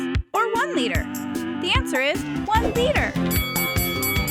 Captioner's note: bell ringing